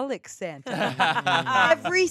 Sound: everyone laughs

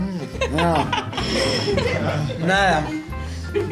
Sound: laughing

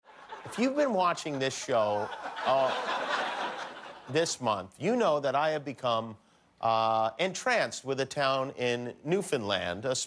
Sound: laughter

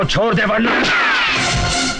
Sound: gunShot

